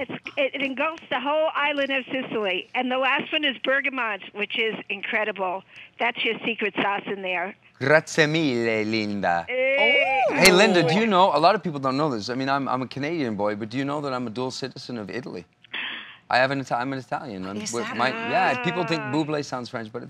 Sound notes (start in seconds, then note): 7.4 foreign language